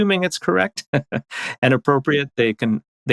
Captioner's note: laughs